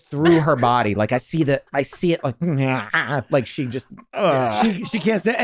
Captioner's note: groans